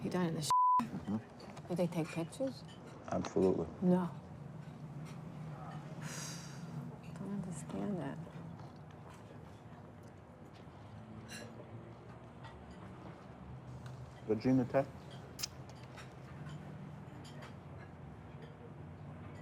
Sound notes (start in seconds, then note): 6.2 sighs; 15.4 lips smacking